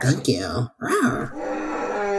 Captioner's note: dinosaur roar